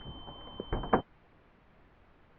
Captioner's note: driver’s door opens